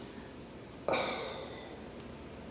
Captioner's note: sigh